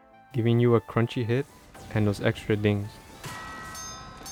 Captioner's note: dings